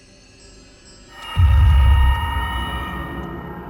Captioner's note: eerie noises